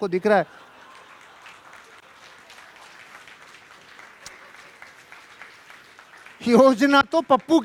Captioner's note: rounds of applause